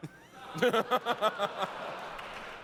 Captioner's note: laughs